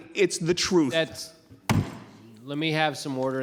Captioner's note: gavel banging